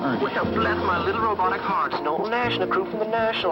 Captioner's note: robotic voice